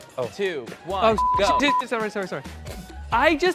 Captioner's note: beep